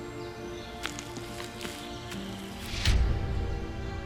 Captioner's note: quiet footsteps; acoustic impact